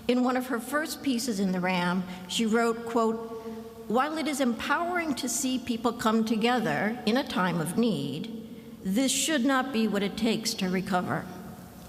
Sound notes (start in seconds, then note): none